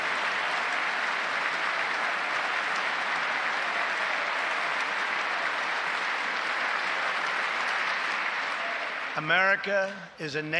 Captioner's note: applause